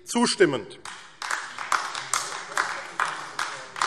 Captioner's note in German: Beifall AfD